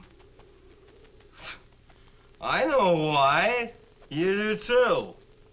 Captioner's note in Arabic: يسخر